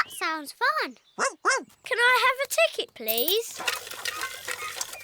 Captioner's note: barks